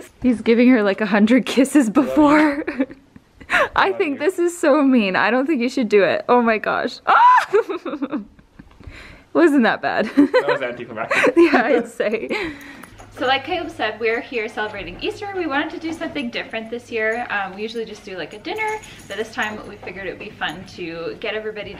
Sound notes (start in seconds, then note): 7.0 shrieks; 10.0 laughing